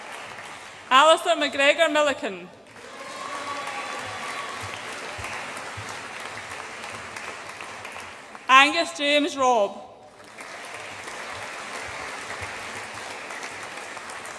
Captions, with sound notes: Alistair Mcgregor Milliken. (AUDIENCE APPLAUDS AND CHEERS) Angus James Robb. (AUDIENCE APPLAUDS)